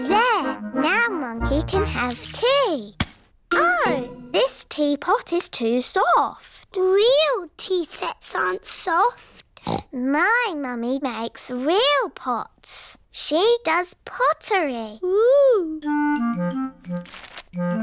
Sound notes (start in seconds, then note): 9.6 snorts